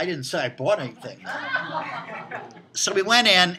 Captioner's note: students laughing